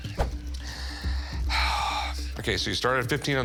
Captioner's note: sighs